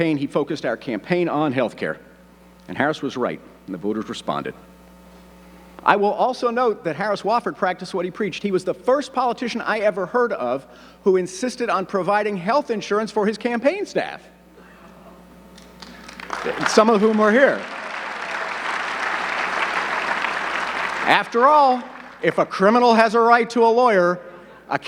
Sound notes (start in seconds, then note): 15.6 audience clapping